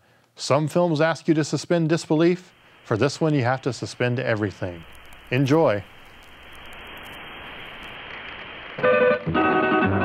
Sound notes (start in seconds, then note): 7.0 TV Static